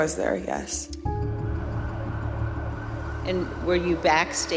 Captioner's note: siren blaring